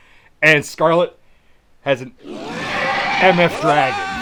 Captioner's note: dragon roaring